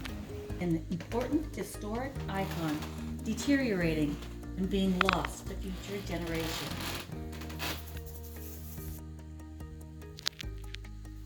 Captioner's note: creaking wood floors